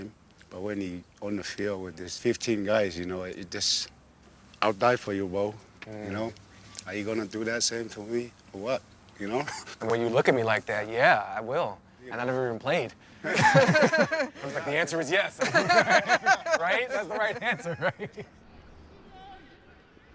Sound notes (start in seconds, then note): 13.1 all laughing